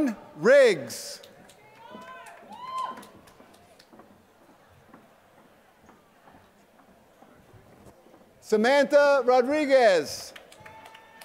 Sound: applause

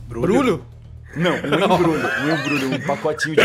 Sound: all the players laugh

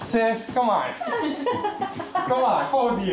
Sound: women laughing

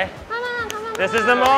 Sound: claps hands

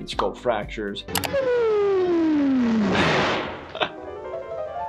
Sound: mouse clicks; piano scales

